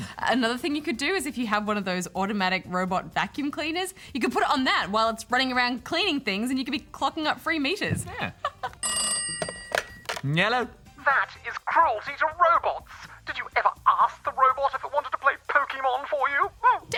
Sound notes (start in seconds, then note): 8.0 laughs; 8.8 phone rings